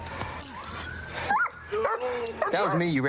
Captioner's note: dog barks